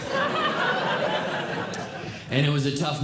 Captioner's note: audience Laughing